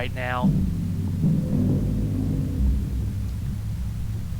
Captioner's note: thumping noises